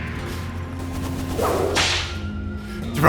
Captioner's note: cowboy whip crack